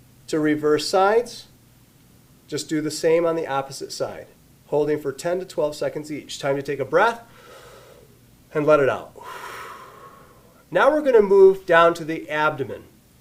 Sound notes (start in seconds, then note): 9.1 inhales audibly; 9.1 exhales audibly